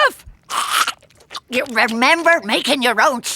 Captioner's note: chewing